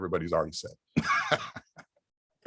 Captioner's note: laugh